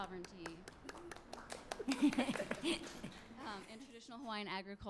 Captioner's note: applause